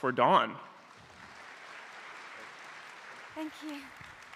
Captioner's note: applause